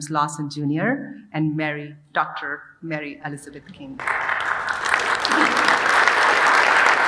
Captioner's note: audience applauding